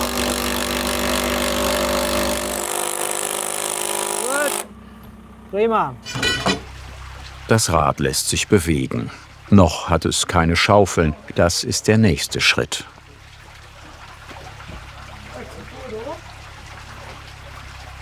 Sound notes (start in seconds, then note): 6.0 metallic sounds; 13.0 splashing water